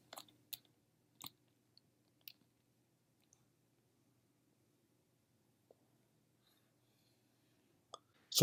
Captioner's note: typing